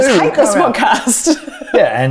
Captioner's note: laughs